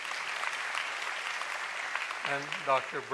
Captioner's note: applause